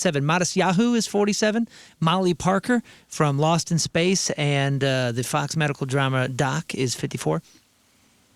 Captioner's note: none